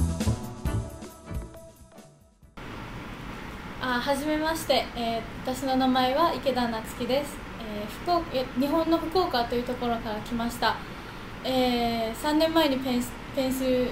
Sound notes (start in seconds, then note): 2.5 speaking foreign language